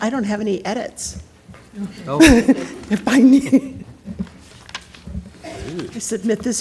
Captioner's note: laugh